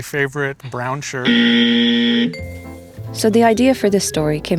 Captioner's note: wrong buzzer noise